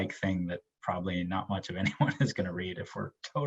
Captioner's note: laughs